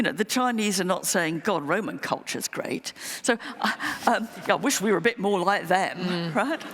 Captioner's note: laughter